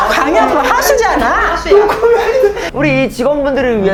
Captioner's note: nonstop chatter